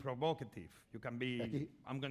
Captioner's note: speaking spanish